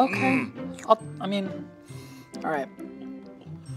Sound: sniffs

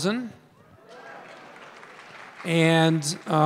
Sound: audience applause

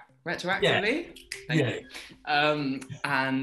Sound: snaps fingers

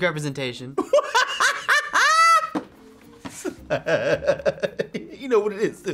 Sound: laughs

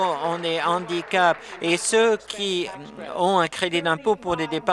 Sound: applause

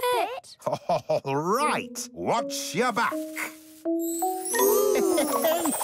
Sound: laughing

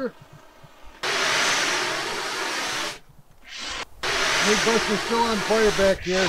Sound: fire extinguisher sprays

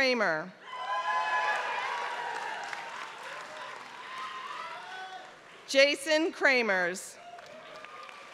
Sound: applause; applause

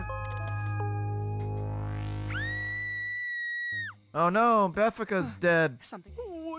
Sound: Beffica screams

